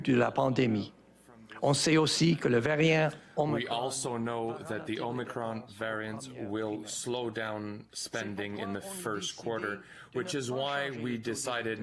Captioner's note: speaking French